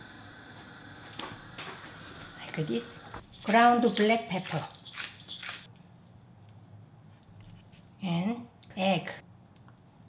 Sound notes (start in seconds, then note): 3.4 ground pepper screeching